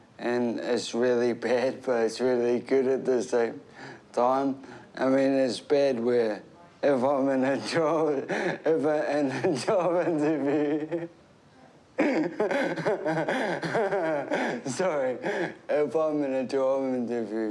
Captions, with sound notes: and it's really bad, but it's really good at the same time. I mean, it's bad where— if I'm in a job— (CHUCKLES) ever in a job interview. (LAUGHS) Sorry. If I'm in a job interview,